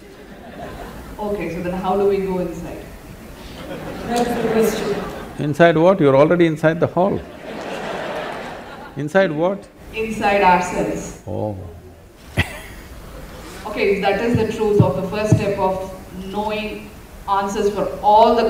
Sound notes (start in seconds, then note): 3.4 laughter; 7.2 laughter; 11.2 laughs